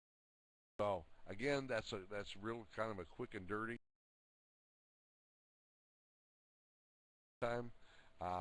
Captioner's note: audio drops